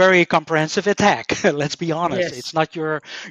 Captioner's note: laughs